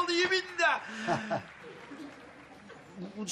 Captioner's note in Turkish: Gülme sesi